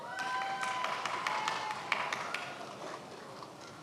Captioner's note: many applauding